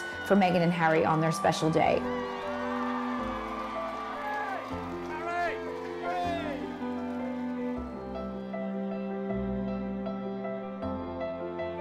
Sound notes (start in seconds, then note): 2.9 crowd cheering; 5.5 crowd; 8.0 light mellow piano music